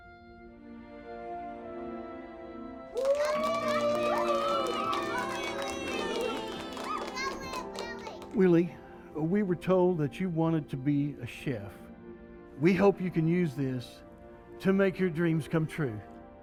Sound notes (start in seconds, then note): 0.1 uplifting music; 2.9 people applaud